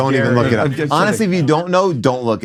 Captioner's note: sighs